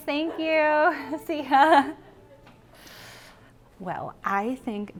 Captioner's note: laughs